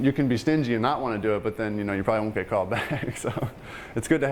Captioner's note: laughing